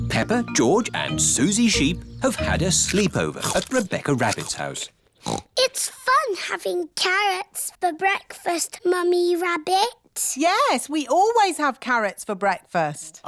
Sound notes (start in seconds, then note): 5.2 snorts